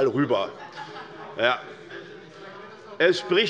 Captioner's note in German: Heiterkeit bei Abgeordneten der SPD